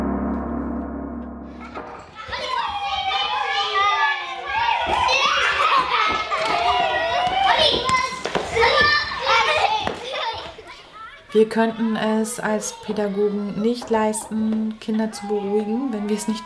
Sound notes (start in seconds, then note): 4.6 children shouting